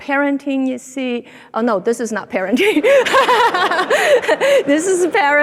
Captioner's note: laughs